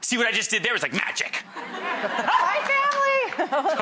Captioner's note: audience laughing